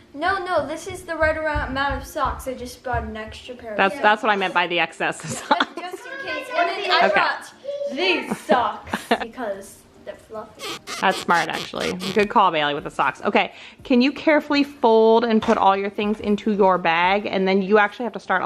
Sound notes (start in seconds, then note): 10.6 socks squeaking